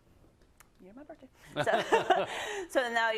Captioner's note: laugh